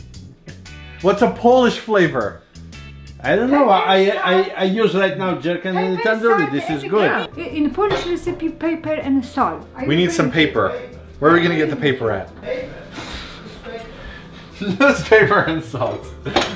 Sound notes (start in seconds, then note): 13.8 giggle